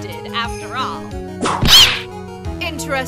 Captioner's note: whip crack!